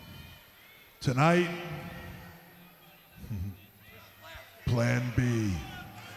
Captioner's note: chuckles